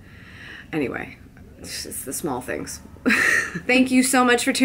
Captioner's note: laughs